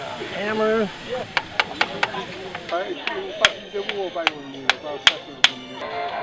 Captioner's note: tapping; music on radio